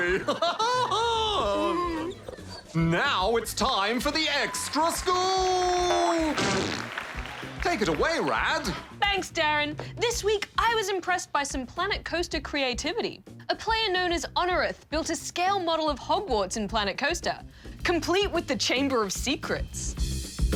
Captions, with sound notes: (LAUGHS) (WHINES) Now it's time for the Extra Scoop! Take it away, Rad. Thanks, DARREN. This week, I was impressed by some Planet Coaster creativity. A player known as Onureth built a scale model of Hogwarts in Planet Coaster, complete with the Chamber of Secrets.